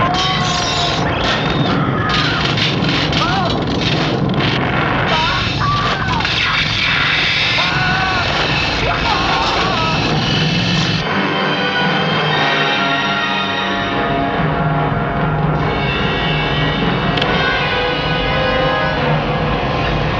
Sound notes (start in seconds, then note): 0.0 explosões rugem; 0.0 tripulação gritando; 4.5 eletricidade crepitante; 4.5 explosão ruge; 5.1 tripulação gritando; 11.2 música dramática